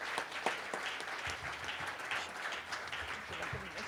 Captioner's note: applause